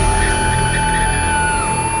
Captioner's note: screaming